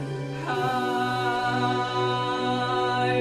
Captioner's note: none